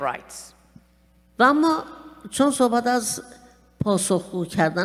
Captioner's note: speaking persian